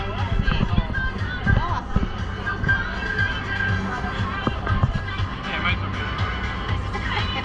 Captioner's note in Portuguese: risos